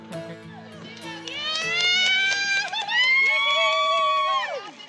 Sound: excited shouts and applause

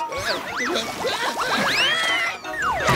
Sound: screaming

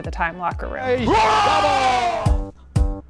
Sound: growling; upbeat music

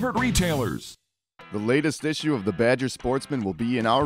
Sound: voiceover

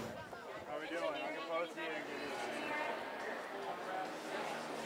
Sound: crowd chattering

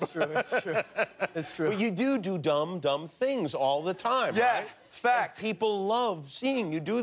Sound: laughter

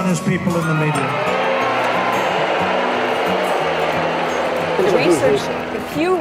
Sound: crowd boos

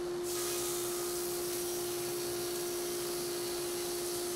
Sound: saw buzzes

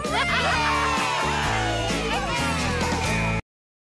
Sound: all Cheering

